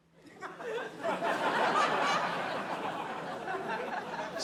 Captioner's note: laughter